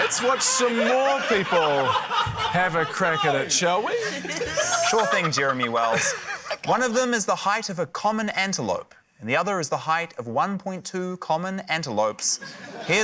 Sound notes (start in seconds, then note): 3.6 laughs; 4.4 exclaims, groans; 12.4 laughter